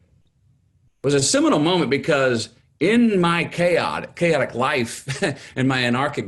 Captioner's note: chuckles